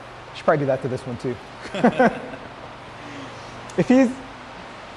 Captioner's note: laughs